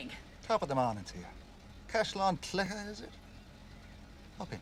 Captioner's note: in irish accent